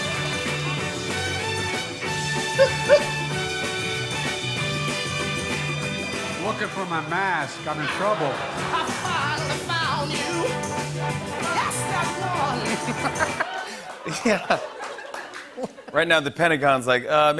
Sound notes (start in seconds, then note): 2.4 laughs; 12.7 laughter and applause